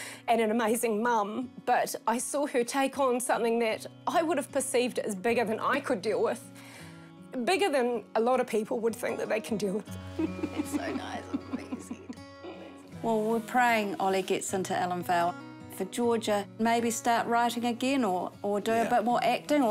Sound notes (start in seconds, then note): 10.1 chuckles softly